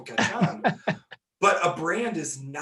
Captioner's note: laughing